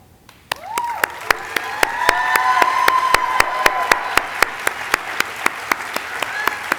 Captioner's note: audience cheering and applauding